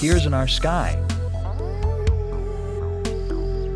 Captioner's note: dog howling